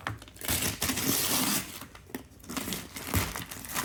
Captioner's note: paper tearing